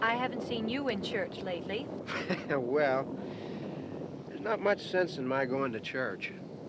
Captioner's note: chuckles